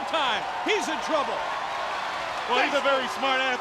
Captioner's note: crowd cheering